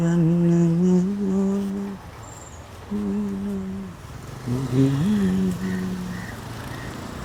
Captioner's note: humming a song